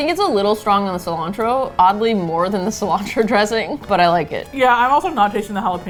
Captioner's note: laughing